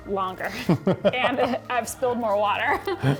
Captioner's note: laughs; laughs